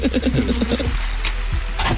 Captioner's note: laughing